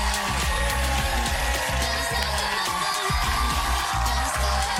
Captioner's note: cheering